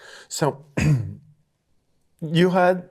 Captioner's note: clears throat